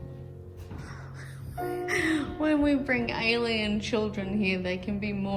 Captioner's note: scoffs, then reads with disbelief